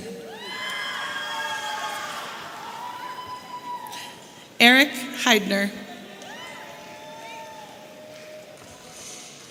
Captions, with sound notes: (audience cheering) Eric Heidner. (audience cheering)